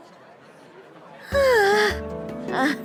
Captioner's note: sigh